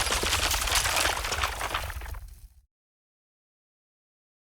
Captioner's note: concrete cracking